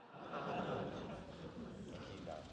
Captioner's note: laughter